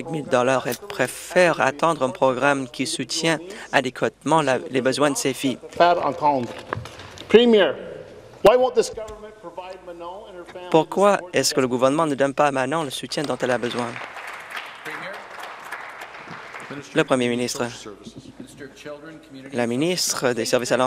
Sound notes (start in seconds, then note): 8.3 speaking in French; 18.4 applause